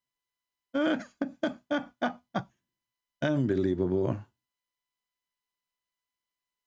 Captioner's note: Ketawa